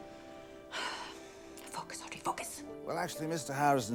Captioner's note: sighs